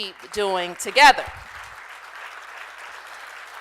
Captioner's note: applause